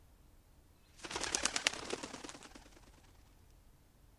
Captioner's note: bird flies